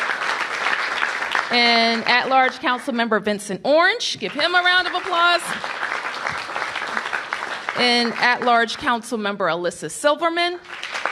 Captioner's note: applause